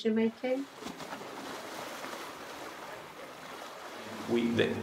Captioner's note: ocean Sounds